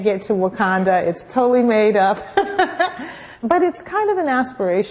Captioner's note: laugh